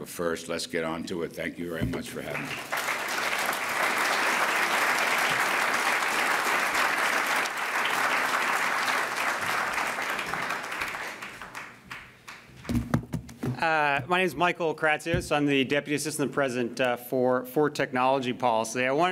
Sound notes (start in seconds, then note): 10.6 applause